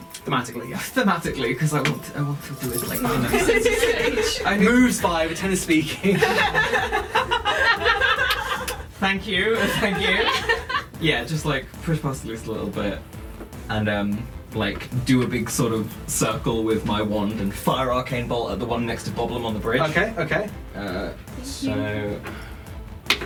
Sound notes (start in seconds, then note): 6.0 laughter